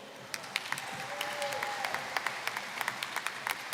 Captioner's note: applause